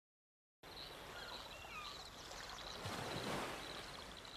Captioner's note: birds singing; waves lapping